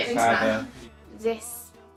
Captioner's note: laughing